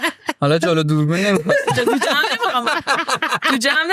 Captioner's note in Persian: خنده